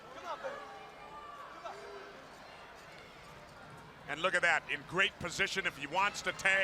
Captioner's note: crowd chatter